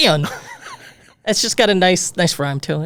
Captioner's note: laughing